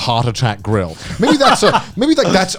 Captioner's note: chuckling